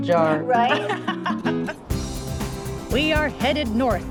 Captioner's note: laughs